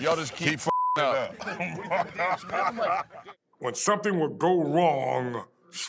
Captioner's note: laugh